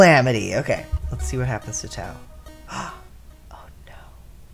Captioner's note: gasp